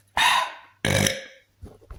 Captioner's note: burp